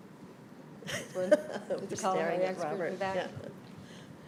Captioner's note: laughing